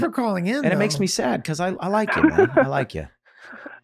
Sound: speaking faintly

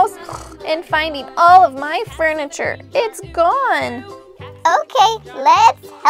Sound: snort

